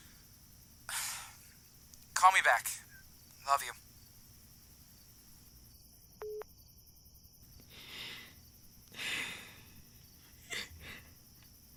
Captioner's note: big inhale and exhale